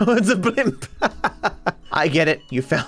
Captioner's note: laughs